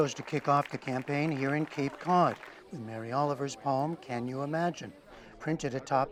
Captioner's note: applause